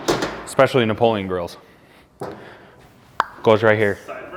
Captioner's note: mouth clicks